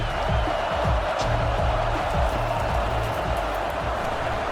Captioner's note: crowd Noises